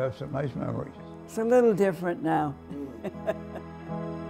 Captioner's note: laughter